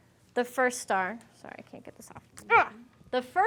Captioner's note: grunts